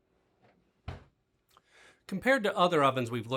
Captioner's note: door thuds